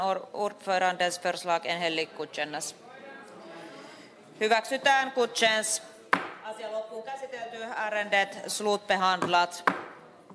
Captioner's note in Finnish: nuijan kopautus